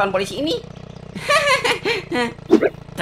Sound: nervous laugh

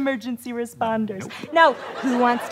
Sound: audience laughter

